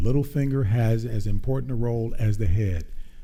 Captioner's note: none